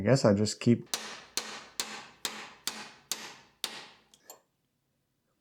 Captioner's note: hammer smacking